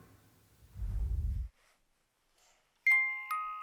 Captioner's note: screen whooshes; gentle music